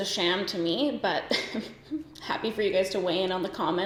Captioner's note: giggles